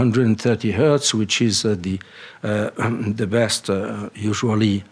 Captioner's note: coughs